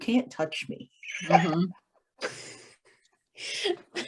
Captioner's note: laughter